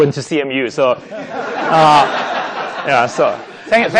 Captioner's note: laughing